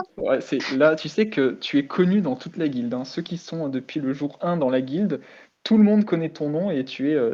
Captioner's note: laugh